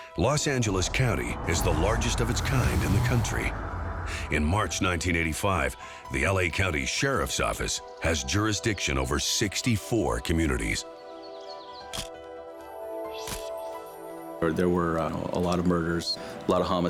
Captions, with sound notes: LOS ANGELES COUNTY IS THE LARGEST OF ITS KIND IN THE COUNTRY. IN MARCH 1985, THE L.A. COUNTY SHERIFF'S OFFICE HAS JURISDICTION OVER 64 COMMUNITIES. (camera shutter click) THERE WERE A LOT OF MURDERS,